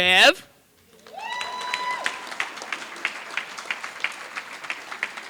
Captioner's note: applause